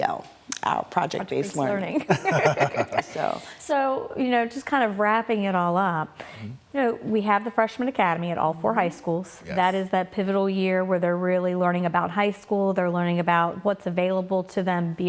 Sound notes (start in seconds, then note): 1.9 laughter